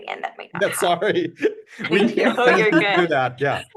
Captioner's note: laugh